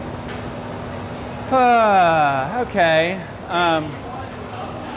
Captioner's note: sighs